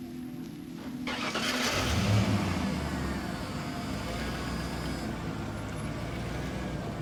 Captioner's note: vehicle rumbling; engine starting